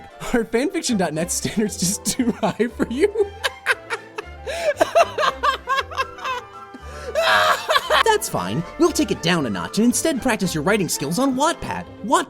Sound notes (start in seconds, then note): 4.4 laughing; 7.1 more laughing